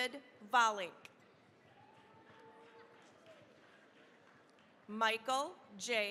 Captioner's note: cheering, applause